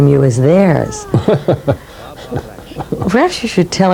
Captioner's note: Merce laughs